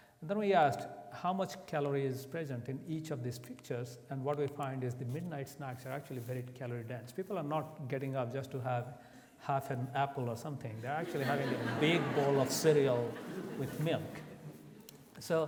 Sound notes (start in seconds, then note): 11.0 audience laughs